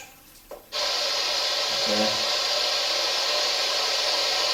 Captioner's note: white noise buzzes